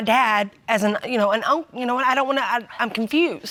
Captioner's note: stammering